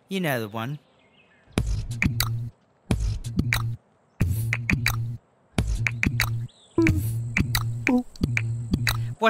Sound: Cuddles Beatbox

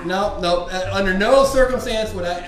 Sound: voiceover

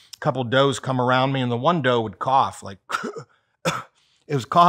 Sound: coughs

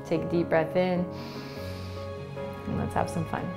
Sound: inhaling

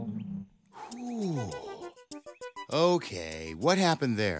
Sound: sighs; upbeat music

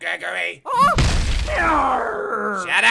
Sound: hammer impact

